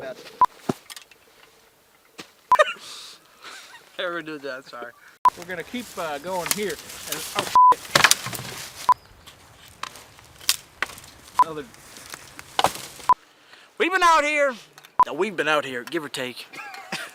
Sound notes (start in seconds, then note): 0.2 frame beeping; 0.2 sleeping bag thudding; 5.0 frame beeping; 7.5 beep; 9.2 wood snapping; 11.3 frame beeping; 12.9 frame beeping; 16.5 laughs